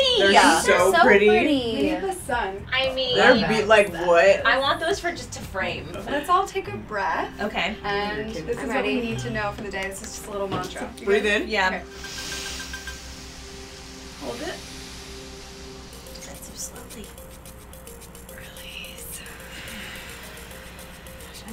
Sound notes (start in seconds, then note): 12.9 the girls inhales; 18.8 whispers